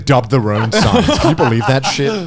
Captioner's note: laughs